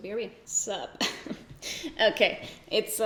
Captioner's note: giggles